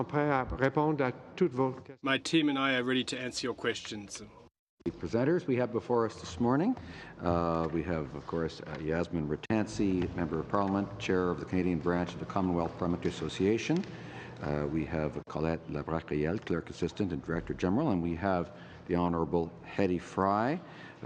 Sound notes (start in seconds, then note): 5.0 speaking French